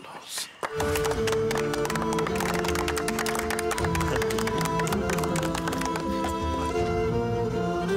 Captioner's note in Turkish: Alkışlarlar